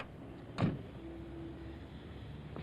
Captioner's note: car door shuts